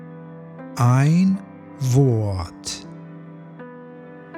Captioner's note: german